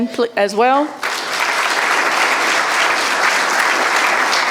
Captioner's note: audience applauding